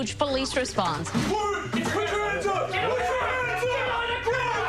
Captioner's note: police shouting